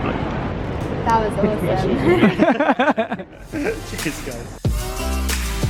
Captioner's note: laughing